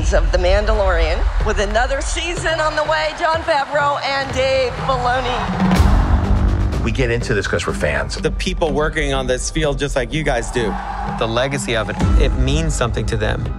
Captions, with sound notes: of The Mandalorian, with another season on the way. Jon Favreau and Dave Filoni. [Cheers] JON FAVREAU We get into this because we're fans. DAVE FILONI The people working on this feel just like you guys do. [Cheers] The legacy of it. It means something to them.